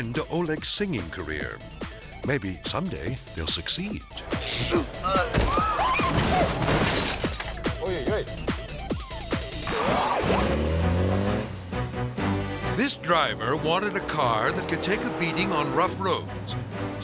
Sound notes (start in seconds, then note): 4.2 electricity buzzes; 4.4 grunts; 5.0 bookcase thuds; 5.9 interviewers exclaiming